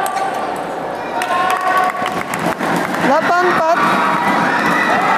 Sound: applause

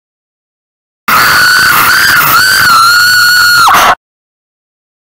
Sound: scream

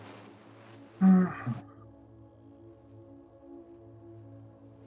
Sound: hums

